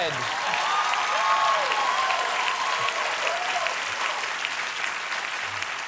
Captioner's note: applause